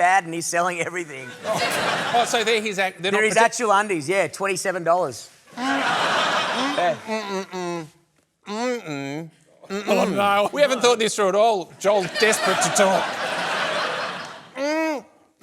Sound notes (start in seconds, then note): 5.5 laughter; 6.8 grunts through closed lips